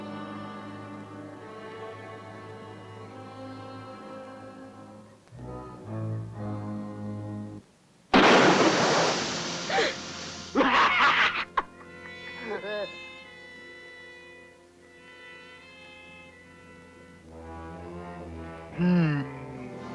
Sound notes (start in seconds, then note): 8.1 gunshot; 8.2 tire hissing; 10.5 maniacal laughter